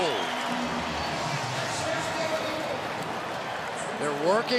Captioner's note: cheering